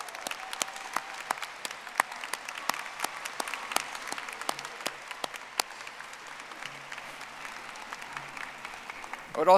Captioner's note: audience applauding